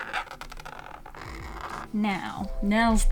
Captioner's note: skriiiitch; scruutch